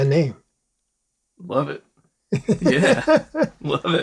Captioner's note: laughter